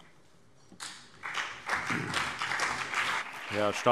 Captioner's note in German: Beifall CDU und BÜNDNIS 90/DIE GRÜNEN